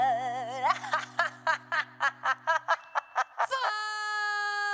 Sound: manic laughter

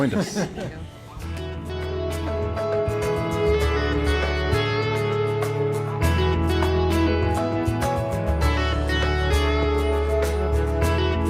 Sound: laughter

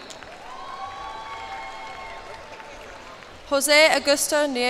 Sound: cheers and applause

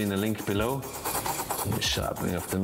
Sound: blade rasping

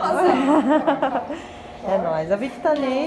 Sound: laughs

